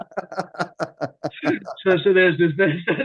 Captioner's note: laughs